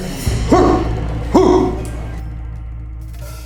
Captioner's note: kiai